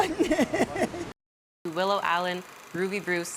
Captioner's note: laughing